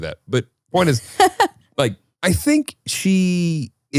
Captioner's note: laughs